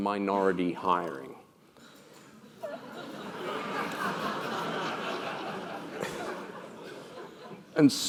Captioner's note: laugh